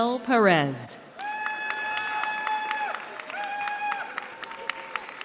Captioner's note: cheering